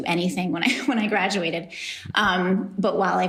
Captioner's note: laughs